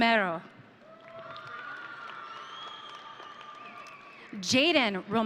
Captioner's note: audience cheering